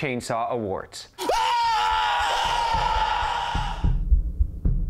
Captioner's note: person screaming